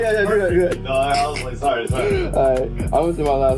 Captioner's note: laughing